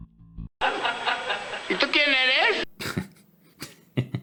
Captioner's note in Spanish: Risas